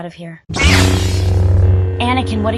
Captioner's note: lightsaber ignition